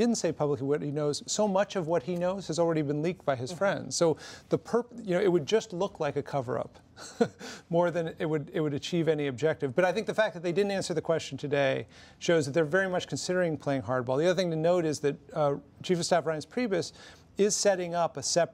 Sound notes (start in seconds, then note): 6.8 laughs